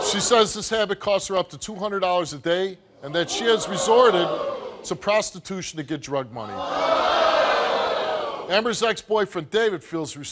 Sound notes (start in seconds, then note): 6.4 crowd booing